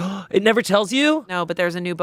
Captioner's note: gasps